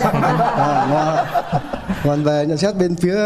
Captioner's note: laugh